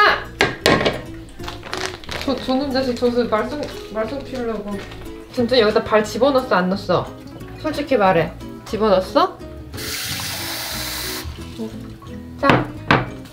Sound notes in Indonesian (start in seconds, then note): 9.8 suara air; 12.7 ttak!